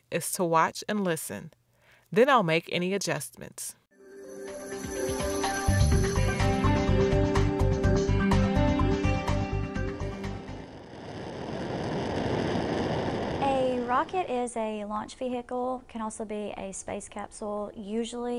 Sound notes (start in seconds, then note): 10.5 sound of rocket launching